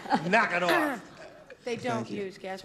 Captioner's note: clearing throat